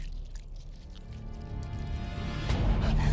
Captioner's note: munching